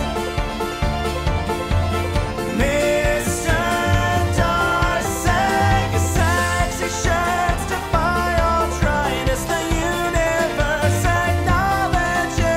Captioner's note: humming to himself